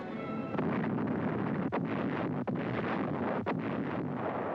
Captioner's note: bombs exploding